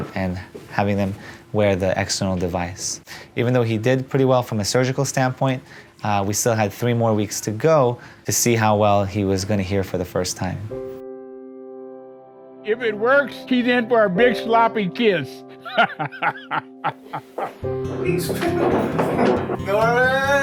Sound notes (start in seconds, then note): 11.4 slow peaceful music; 15.6 laughing